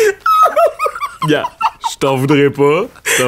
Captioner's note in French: éclat de rire